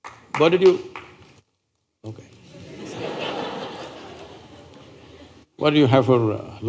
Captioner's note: laughter